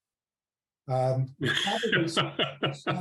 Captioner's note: laughs